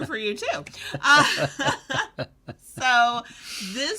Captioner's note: both chuckle